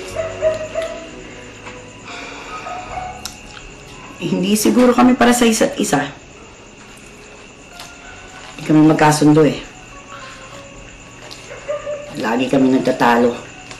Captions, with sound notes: [sighs] Maybe we just weren't meant for each other. We didn't get along well. We always fight.